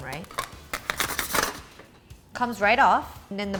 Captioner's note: spatula scrapes